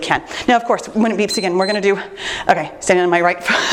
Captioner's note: timer beeps